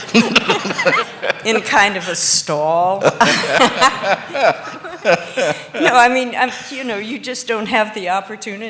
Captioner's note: laughter